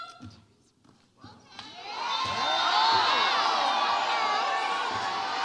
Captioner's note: audience cheers